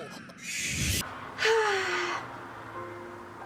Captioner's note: big sigh